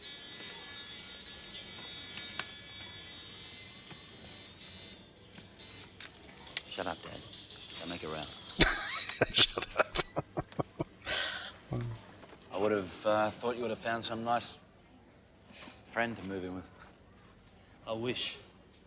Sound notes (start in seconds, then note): 8.6 laughing